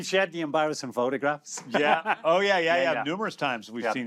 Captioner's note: laughs